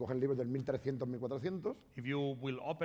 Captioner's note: speaking spanish